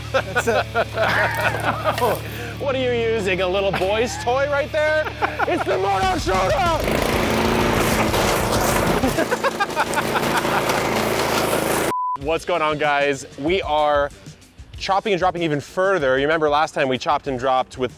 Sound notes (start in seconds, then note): 0.0 laughing; 7.5 mower engine revving; 8.8 laughing